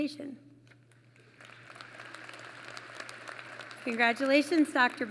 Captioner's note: applause